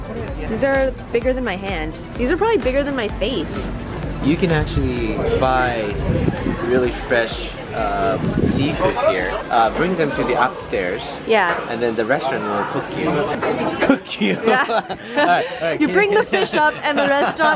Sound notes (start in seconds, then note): 13.6 laughs